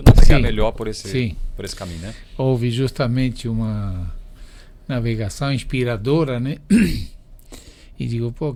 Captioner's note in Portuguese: limpando a garganta